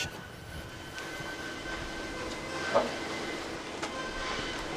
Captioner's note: electronic whine